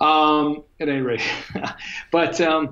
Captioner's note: chuckles